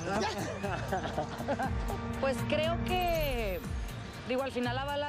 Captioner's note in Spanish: ambos ríen